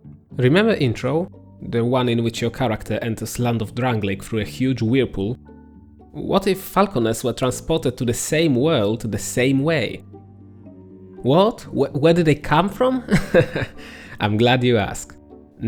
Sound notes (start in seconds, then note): 13.0 laughter